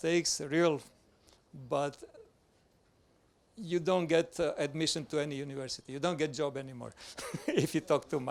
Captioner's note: laughs